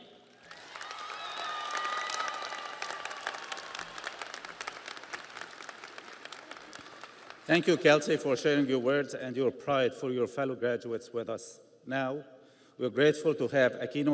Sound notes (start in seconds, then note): 5.9 audience applauds; 5.9 audience cheers